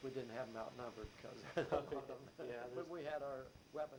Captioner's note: chuckles